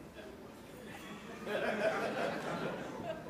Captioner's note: audience laughter